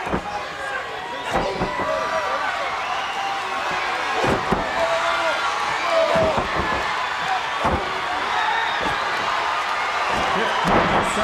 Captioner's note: crowd cheering